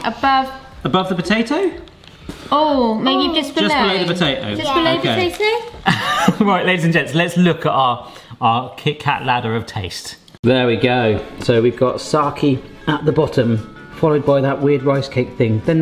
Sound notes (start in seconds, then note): 5.8 laughing